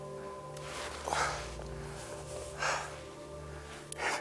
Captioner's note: panting